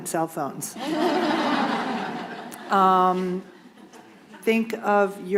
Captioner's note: laughter